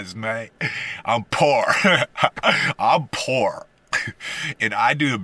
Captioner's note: haha